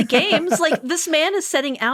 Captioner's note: laughing